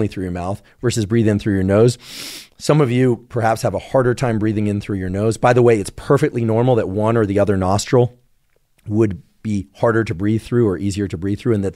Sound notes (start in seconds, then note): 2.0 sniffs